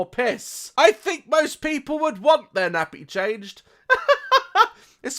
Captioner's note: laughs